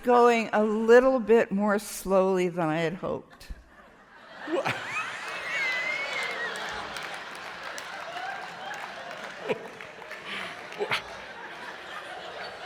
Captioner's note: laughter